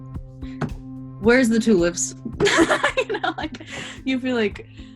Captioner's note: laughs